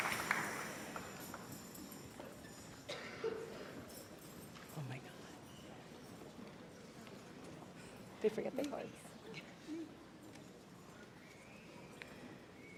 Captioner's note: applause and cheers